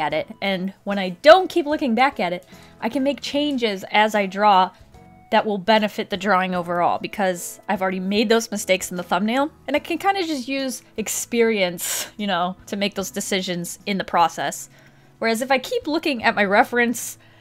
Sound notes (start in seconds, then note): none